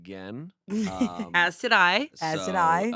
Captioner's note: laughs